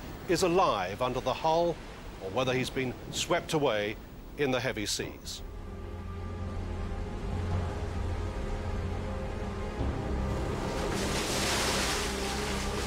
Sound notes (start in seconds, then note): 5.4 brooding music; 7.8 waves crashing